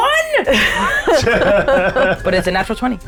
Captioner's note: players laughing